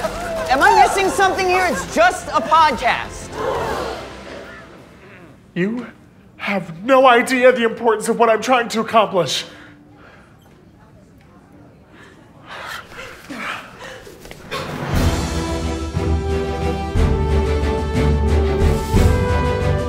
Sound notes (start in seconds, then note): 3.1 collective gasp; 14.8 triumphant music